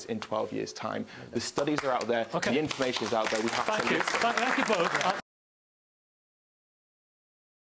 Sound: applause

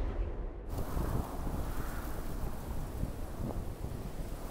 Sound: wind howling

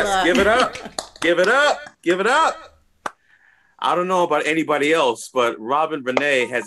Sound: applause

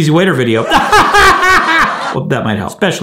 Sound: laughs

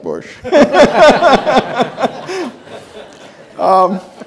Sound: all laughing

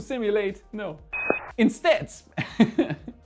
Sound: futuristic tone beeps; chuckling

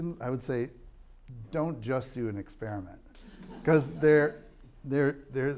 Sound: laughter

